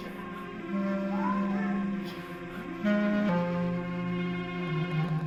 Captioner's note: dog barking